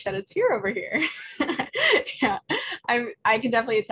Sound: laughs loudly

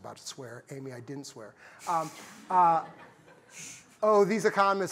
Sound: laughter

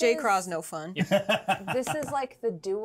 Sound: speaker laughs

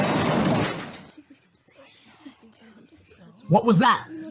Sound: crash; whispering

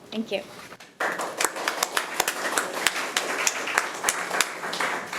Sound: committee applauding

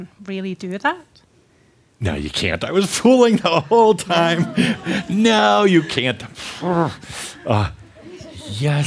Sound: Adamus chuckles

